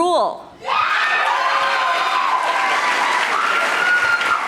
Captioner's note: audience applauding